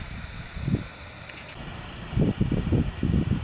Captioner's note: wind blowing